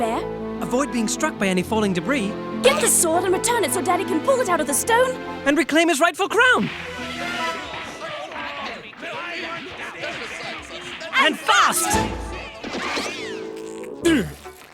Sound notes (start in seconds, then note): 7.6 squabbling; 14.0 grunting